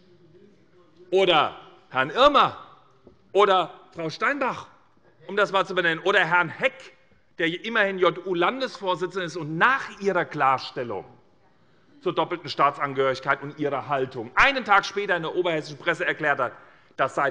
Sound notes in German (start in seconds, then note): none